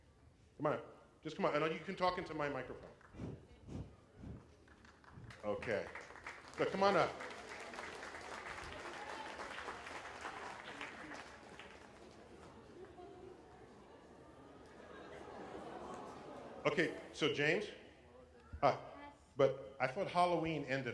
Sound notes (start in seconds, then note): 7.2 applause